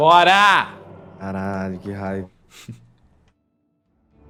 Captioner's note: laughs